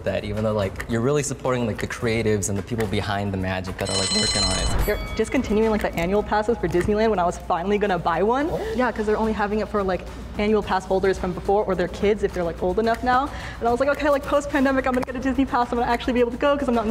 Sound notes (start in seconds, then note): 3.8 bell ringing